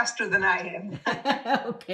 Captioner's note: laughing